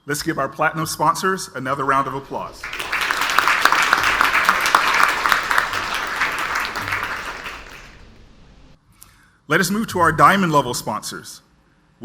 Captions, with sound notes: Let's give our platinum sponsors another round of applause. (audience applauds) Let us move to our diamond level sponsors.